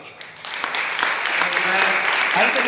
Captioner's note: audience applauding